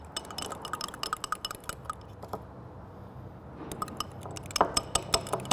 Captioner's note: metal fork clinking on glass